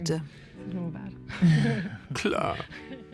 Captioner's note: laughing